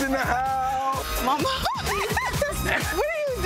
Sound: giggling

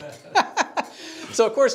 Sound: laughs

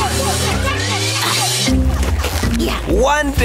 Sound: grunting

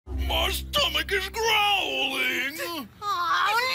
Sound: whines

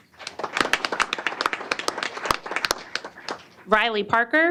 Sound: applause

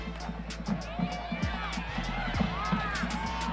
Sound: nats of whistles blowin

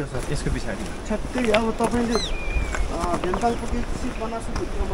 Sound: indistinct conversation

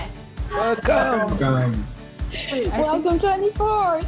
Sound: laughing

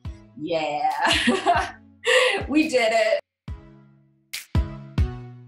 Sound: laughs; upbeat music

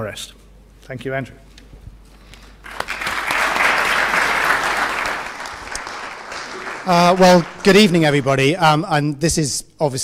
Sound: applause

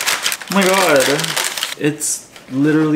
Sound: paper crinkling

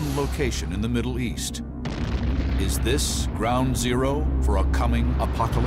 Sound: explosion

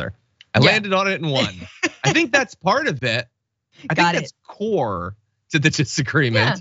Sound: laugh

